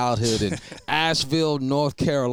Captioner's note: chuckles